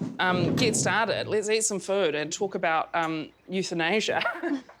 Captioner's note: giggles